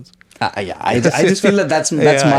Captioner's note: laughs